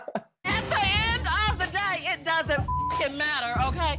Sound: laughing; beep

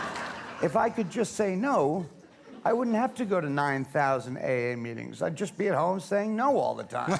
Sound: laughter

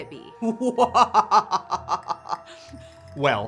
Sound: laughter

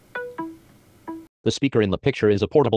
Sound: Seeing AI Chime

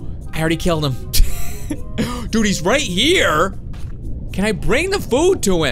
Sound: laughs

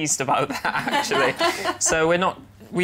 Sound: laughter

